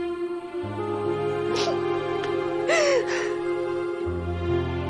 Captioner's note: grace sniffles, sobs; somber music continues